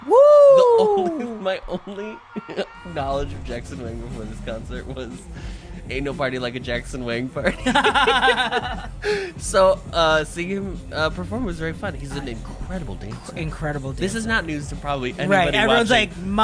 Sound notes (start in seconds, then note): 7.4 laughs